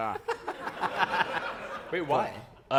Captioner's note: laughter